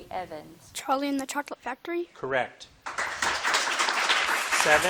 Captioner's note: audience clapping